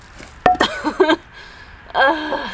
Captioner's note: laughs